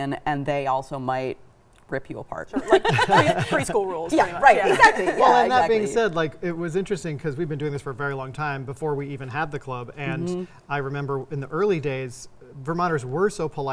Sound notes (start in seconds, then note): 2.5 laughing